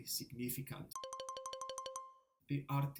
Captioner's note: bell ring